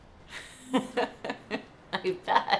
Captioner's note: laughs